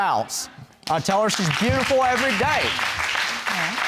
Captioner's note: applause